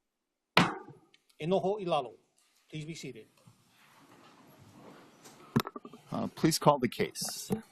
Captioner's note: gavel bangs once